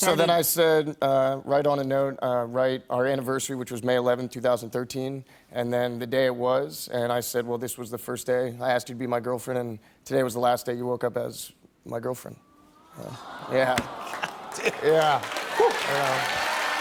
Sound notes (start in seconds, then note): 12.6 audience "Aww"s